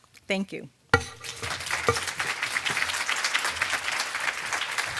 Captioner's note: audience applauding